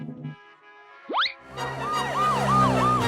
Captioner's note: sirens blare